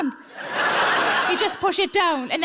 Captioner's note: audience laughs